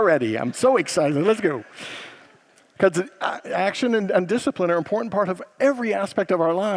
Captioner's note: congregants laugh